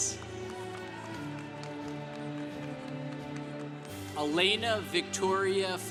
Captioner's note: congregation cheering